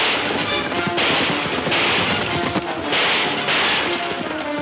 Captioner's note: gunshots banging